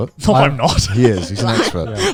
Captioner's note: laughs